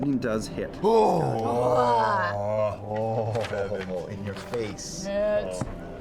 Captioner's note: impressed noises